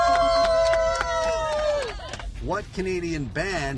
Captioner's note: cheering